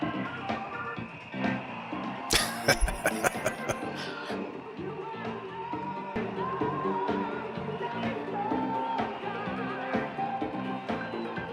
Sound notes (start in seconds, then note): 2.3 laughing